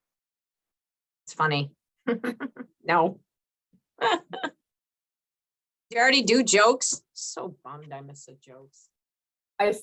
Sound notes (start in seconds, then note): 4.0 chuckles; 4.0 laughs